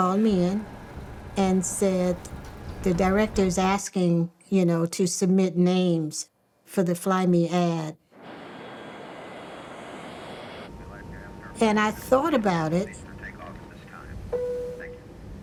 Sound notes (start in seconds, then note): none